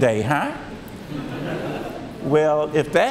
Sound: audience laughs

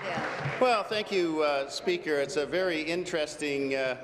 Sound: applause

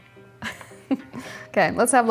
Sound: chuckles

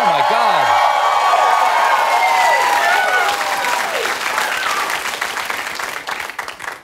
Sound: cheers

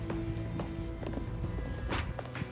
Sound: door opens

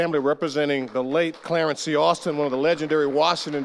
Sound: audience applauding

